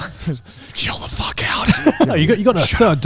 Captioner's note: whispering